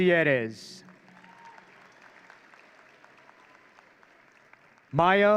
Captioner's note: audience cheering